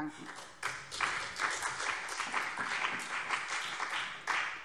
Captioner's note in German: Beifall BÜNDNIS 90/DIE GRÜNEN und CDU